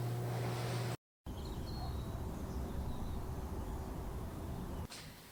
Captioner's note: birds chirping